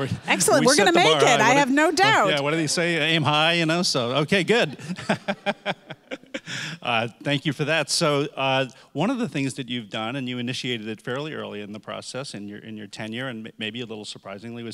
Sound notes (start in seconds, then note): 0.0 audience laughing; 4.4 laughs